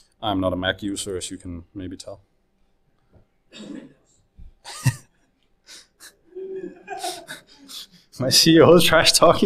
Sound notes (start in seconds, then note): 4.6 laughs; 6.3 audience laughs